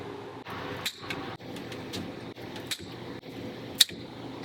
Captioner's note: snipping sounds